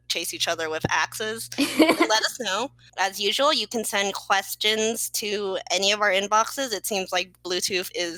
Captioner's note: laughs